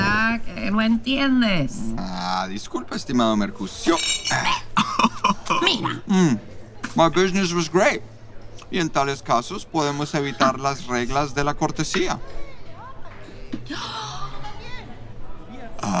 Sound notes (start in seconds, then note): 3.8 dishes rattling; 6.8 with mouth full; 13.1 voice approaching